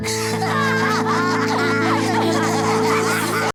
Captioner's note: all laughing